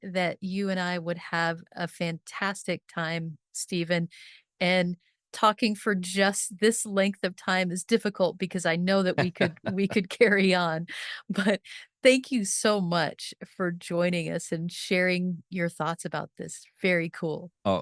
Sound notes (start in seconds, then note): 9.2 laughing